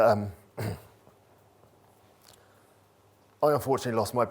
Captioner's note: clears throat